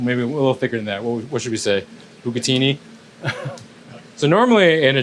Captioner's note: laughs